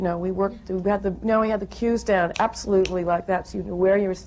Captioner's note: snaps fingers